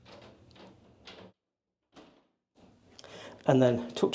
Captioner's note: door clicking